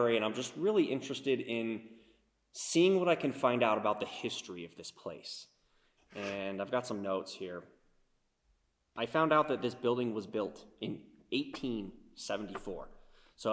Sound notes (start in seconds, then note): none